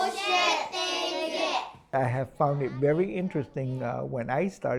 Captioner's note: children speak in their native language